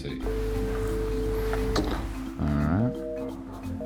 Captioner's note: ringing; busy signal